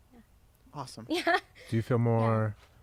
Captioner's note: laughs